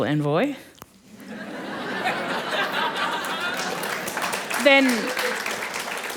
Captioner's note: laughter and Applause